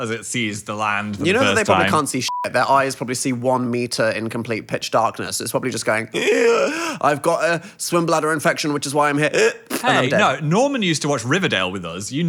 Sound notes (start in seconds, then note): 6.2 gasps; 9.8 gasps